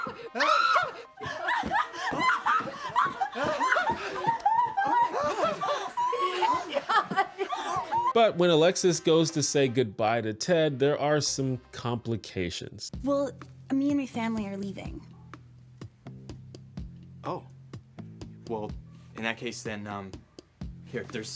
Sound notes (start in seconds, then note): 4.2 The Roses cheer and scream; 6.9 joyful sobbing